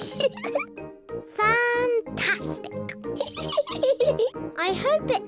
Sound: laughs; laughs

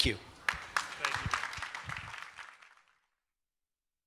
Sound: applause

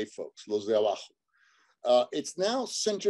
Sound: speaks Spanish

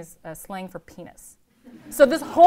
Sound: laughter

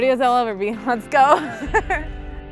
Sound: laughs

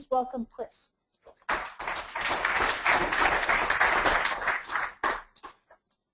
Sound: audience clapping

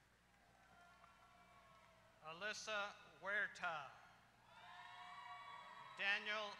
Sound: applause

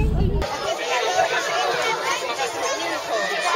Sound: noisy

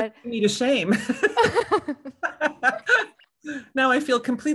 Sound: laughing

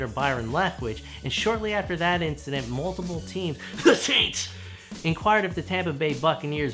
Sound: cough “The Saints

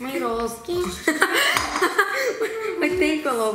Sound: laughs

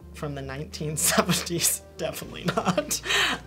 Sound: laughing

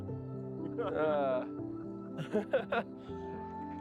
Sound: laughs

